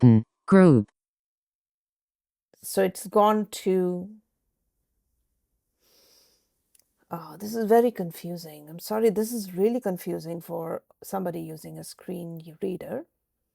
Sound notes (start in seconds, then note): 2.7 takes a deep breath